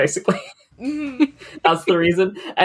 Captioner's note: laughs